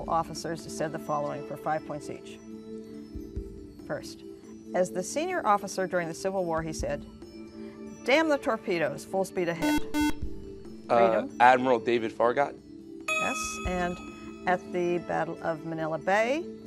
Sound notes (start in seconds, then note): 9.6 buzzer